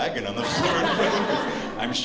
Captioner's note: laughter